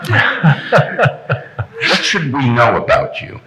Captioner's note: laughing